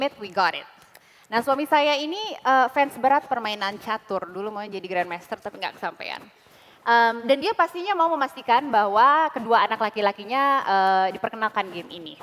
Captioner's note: non-english speech